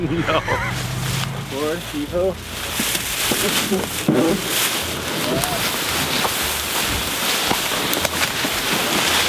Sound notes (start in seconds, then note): 0.0 men laughing; 3.6 bush scrubbing